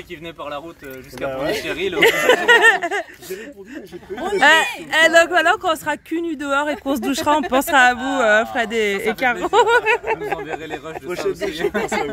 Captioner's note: laughs